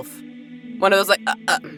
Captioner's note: stutters